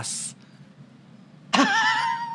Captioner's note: laughter